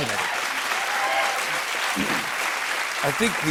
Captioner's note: cheers and applause